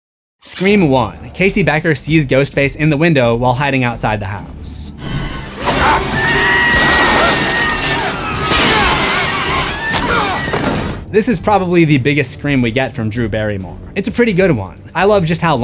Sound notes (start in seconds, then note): 5.0 screams